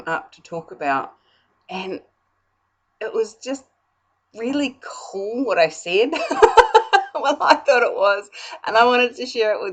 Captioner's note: laugh